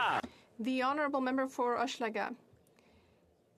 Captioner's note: some Applause